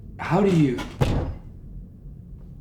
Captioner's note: loud bang